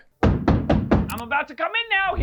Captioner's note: knocking on the door